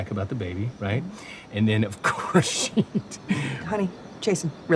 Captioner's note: chuckles